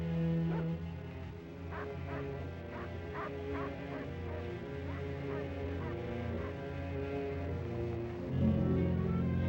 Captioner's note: ominous music; dogs bark in distance; ominous music